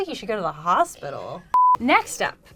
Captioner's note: beep